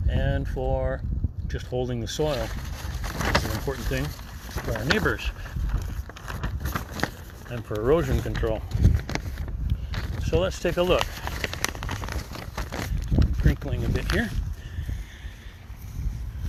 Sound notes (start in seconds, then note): 11.9 paper crinkling